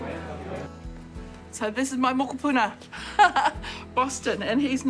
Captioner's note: laughs